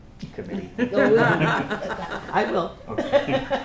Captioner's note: laughter